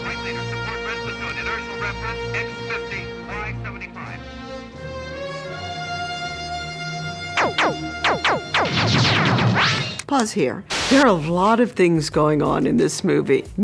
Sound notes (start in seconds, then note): 7.6 guns blazing